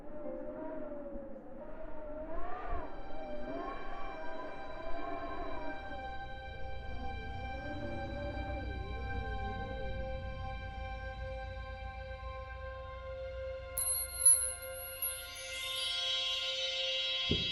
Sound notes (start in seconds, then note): 0.1 loud wind blowing; 11.2 wind stops; 13.8 magical sparkling chime